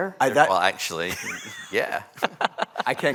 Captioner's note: laughter